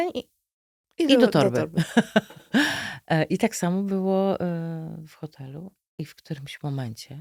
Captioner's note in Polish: śmiech